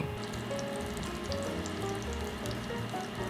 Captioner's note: butter sizzling